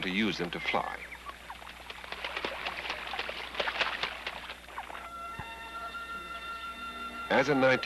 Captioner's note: geese Chirping, Water Sloshing, Music